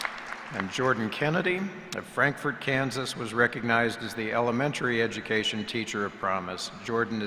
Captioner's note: applause